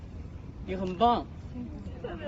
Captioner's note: crowd